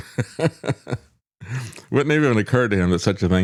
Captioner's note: laughs